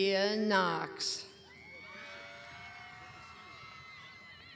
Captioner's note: cheering